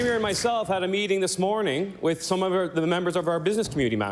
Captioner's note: cheering/Applause